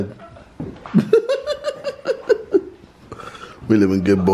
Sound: laughing

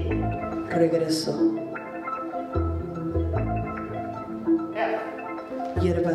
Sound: speaking in Spanish; speaking in Spanish

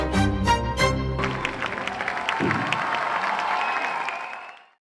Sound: aplausos y gritos

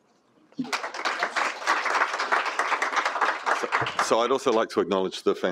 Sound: applause

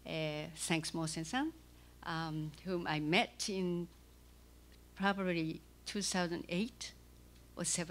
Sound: non-english speech

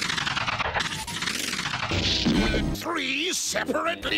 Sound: chhhghhkk-pwoot

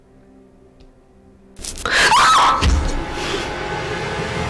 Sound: girl Screams

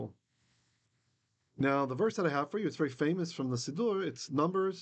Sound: Hebrew

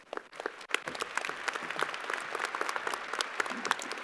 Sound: crowd applauding

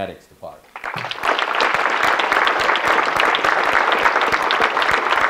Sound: audience clapping

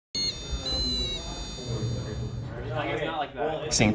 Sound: electronic whining; overlapping student voices

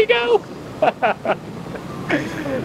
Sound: laughs

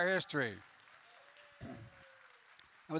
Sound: applause

